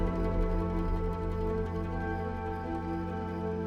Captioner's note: crickets chirping